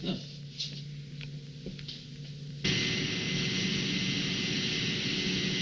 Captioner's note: machinery humming